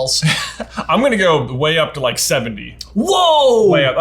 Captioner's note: laughs